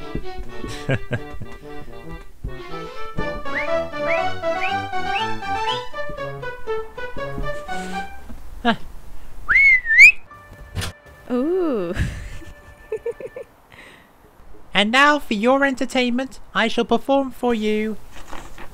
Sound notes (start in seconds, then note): 0.5 chuckles; 9.4 whistles; 11.7 giggles